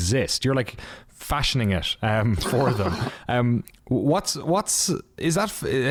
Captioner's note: laughter